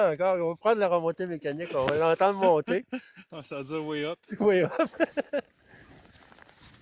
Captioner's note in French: rires